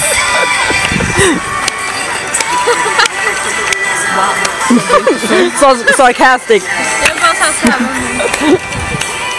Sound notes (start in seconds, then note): 2.3 sarcastic claps